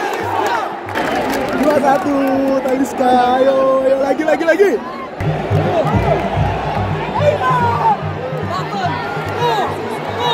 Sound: clap

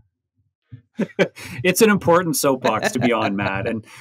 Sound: laughing

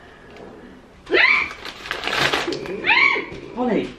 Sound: screams

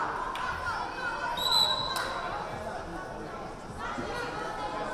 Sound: whistle blaring

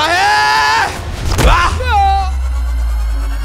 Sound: screams

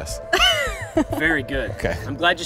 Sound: laughing

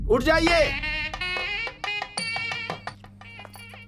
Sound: wedding bells

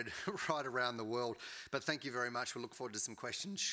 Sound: giggles

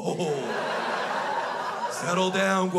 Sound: crowd laughs

